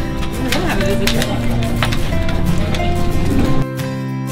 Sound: people murmuring; laughs; upbeat guitar music

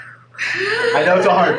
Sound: laughing

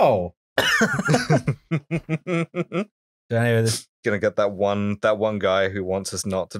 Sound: laughter

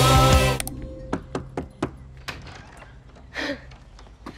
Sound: knocking; chuckles

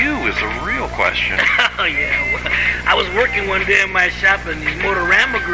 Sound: chuckles

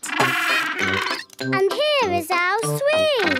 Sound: honking

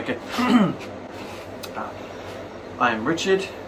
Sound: clears throat; inhales

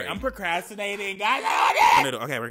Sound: man yelling

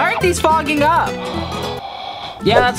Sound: blowing on glasses

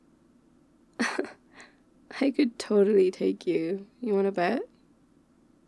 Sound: laughs

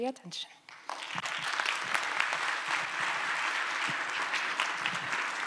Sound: applause

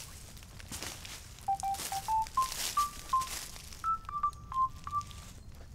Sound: mobile phone rings

